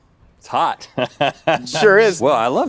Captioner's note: Rhett laughs